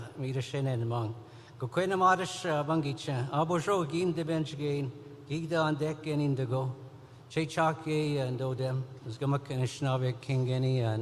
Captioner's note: speaking Indigenous language